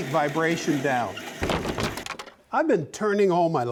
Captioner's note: wood clinks together